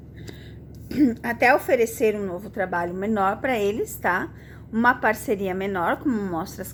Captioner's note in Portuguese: limpando a garganta